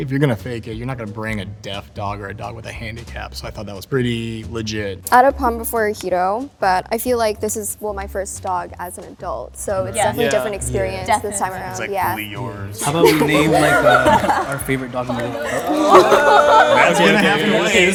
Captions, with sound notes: - If you're going to fake it you're not going to bring a deaf dog or a dog with a handicap, so I thought that was pretty legit. - I had a pom before Hiro, but I feel like this is my first dog as an adult. So it's definitely a different experience this time around. (laughing and chatting)